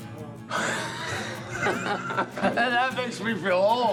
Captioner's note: laughing